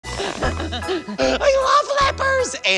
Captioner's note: laughing goofily